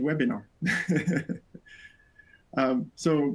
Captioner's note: laughs